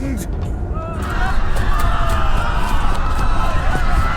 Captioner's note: crowd yelling